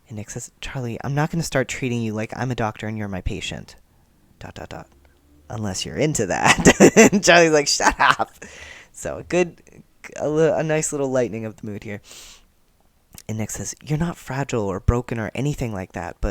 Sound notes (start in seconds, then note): 6.4 laughter